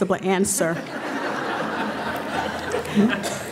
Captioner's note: laughing